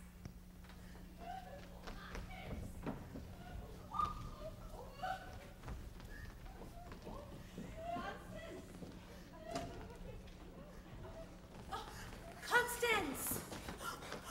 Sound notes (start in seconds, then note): 1.2 Constance cries